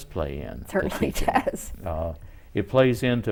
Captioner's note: laughs